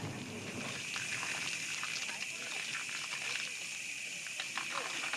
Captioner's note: water flowing sound